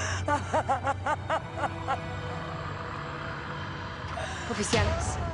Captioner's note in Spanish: Sollozos